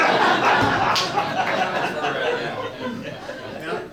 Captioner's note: all laugh